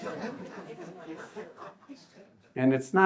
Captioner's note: audience chuckles